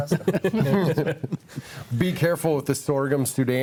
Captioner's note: group laughs